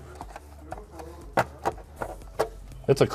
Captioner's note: metal clanking